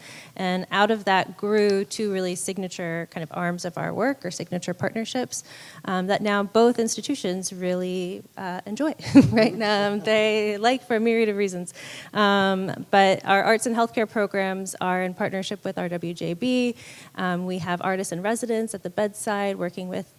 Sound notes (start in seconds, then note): 9.0 laughs